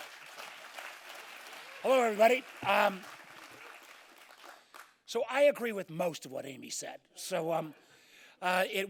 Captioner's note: applause